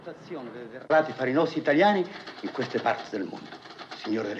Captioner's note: continues in Italian